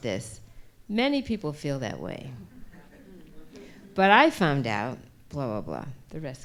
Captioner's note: laughter